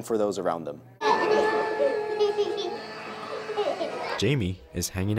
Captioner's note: baby laughing